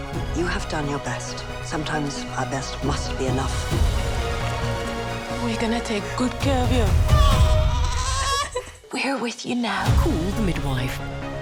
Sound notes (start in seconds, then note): 7.1 baby crying; 7.8 mother laughing